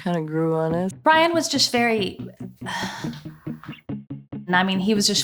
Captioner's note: sighs